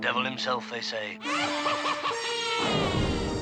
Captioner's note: scarecrow cackling